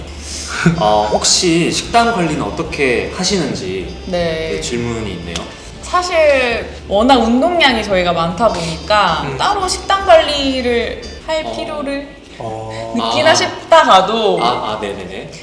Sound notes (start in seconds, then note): 9.3 hesitant